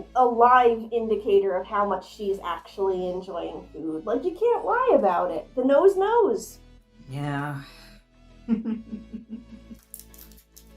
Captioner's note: chuckles